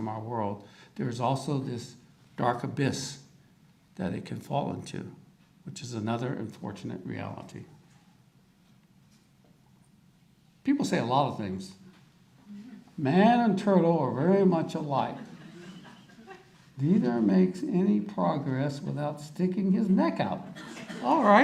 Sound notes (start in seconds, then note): 15.0 audience laughter